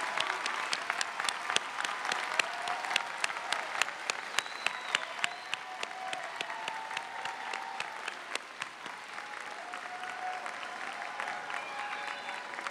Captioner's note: cheers and applause